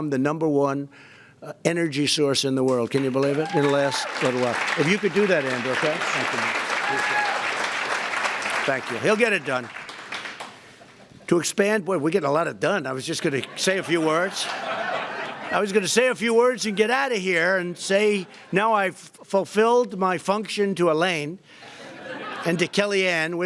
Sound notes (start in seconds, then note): 6.5 applause; 13.4 laughter